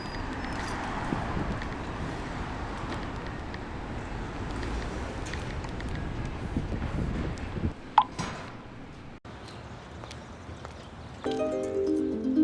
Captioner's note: sounds of Vehicles Driving; harp Music